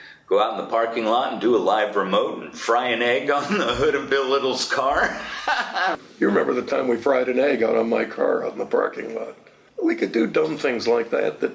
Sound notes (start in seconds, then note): 4.8 laughs